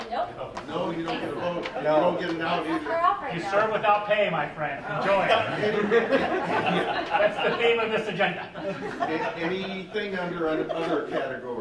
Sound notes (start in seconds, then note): 0.4 laughing; 2.0 murmuring; 4.7 laughing